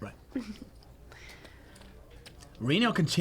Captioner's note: giggles